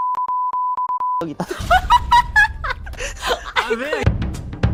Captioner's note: startled laughing